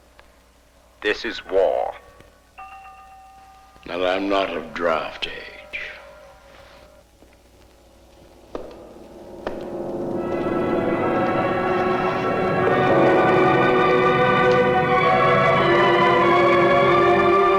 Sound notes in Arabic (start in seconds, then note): 6.4 صوت خطوات قوية; 8.6 موسيقى أوركسترا